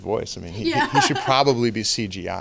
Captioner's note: laughing